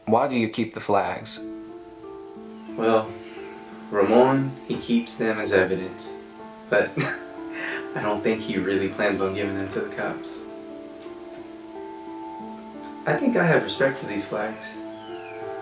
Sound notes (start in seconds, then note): 6.7 chuckling